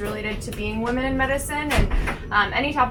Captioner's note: door closes